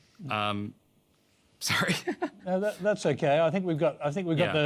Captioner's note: laughs